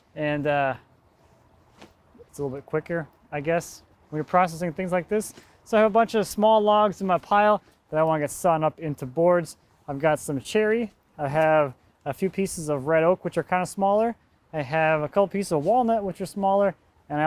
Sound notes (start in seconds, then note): none